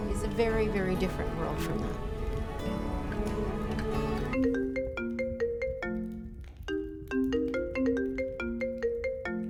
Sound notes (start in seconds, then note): 7.2 phone ringing